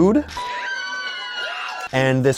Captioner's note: cheering